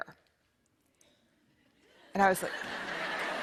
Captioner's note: laughter